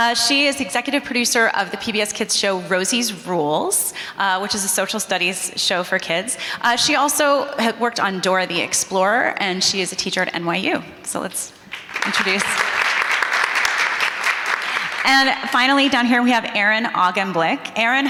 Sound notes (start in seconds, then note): 11.7 audience applauding